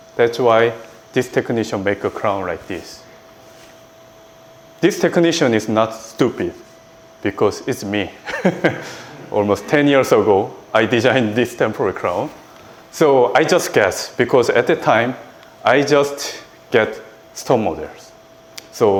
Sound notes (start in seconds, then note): 8.2 laughs